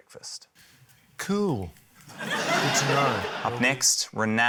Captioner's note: laughter